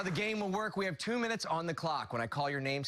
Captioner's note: cheers and applause